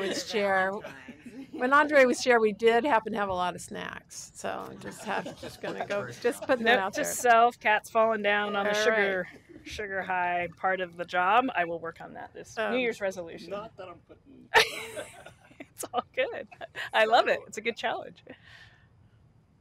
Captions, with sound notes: KATHERINE'S BUYING CUPCAKES BECAUSE THE NEXT DAY IS VALENTINE'S DAY? [LAUGHTER] >> I DO REMEMBER THAT WHEN ANDRE WAS CHAIR. WE DID HAPPEN TO HAVE A LOT OF SNACKS, SO JUST GOING -- JUST PUTTING IT OUT THERE.